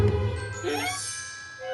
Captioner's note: poink!